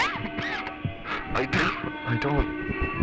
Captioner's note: coughing